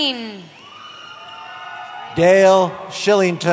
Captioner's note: cheering